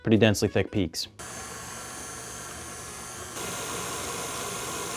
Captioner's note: mixer whirls